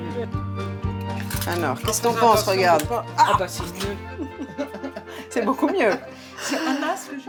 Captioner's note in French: rires